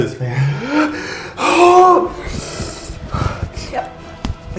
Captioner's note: breathes reALLy intensely